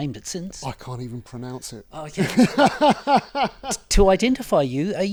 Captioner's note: huge laugh